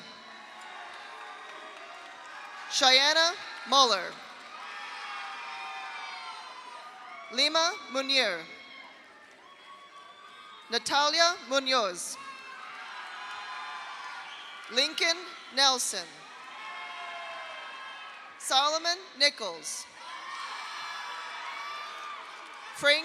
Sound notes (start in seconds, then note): 0.0 audience cheers; 0.1 audience applauds; 3.9 audience applauds; 4.4 audience cheers; 8.4 audience cheers; 9.0 audience applauds; 12.2 audience cheers; 12.2 audience applauds; 16.2 audience cheers; 16.3 audience applauds; 20.0 audience cheers; 20.1 audience applauds